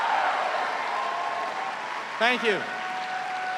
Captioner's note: cheers and applause